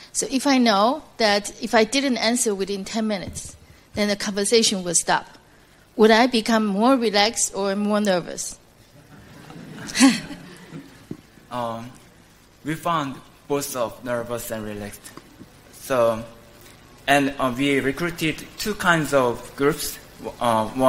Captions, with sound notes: so if I know if I didn't answer within ten minutes, then a conversation would stop, would I become more relaxed or more nervous? (laughter) - We found both of nervous and relaxed, and we recruited two kinds of groups,